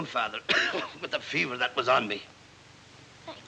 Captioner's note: coughs